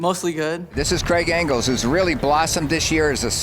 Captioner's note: voiceover